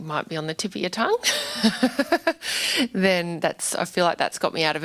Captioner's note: laughs